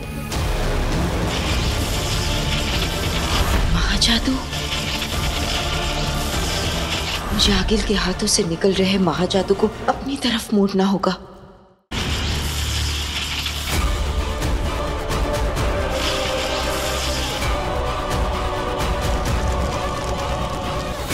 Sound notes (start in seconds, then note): 0.3 fire crackling; 11.9 fire crackling